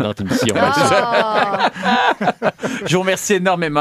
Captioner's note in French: rires